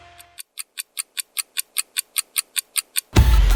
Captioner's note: clock ticking; upbeat music